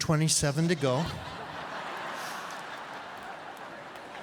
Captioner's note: laughing